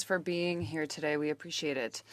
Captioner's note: speaking French